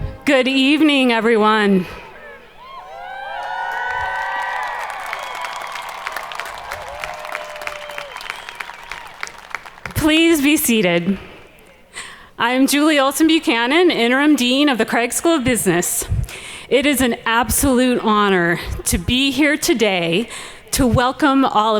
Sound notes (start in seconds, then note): 2.1 audience cheering